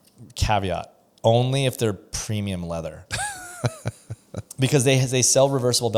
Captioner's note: laughs